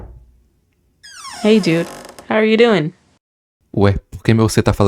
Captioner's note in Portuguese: porta abre